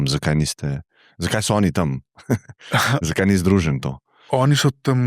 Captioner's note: laughter